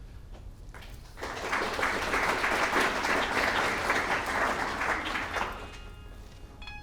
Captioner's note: clapping; piano music